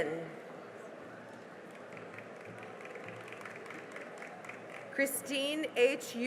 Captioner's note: cheering and applause